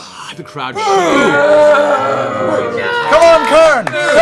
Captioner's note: booing; cheers